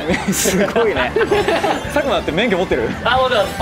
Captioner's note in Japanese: 笑い